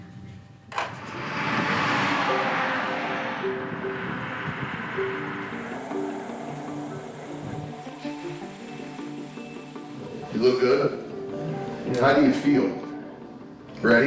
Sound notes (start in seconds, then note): 1.4 truck engine roaring; 5.7 ambient music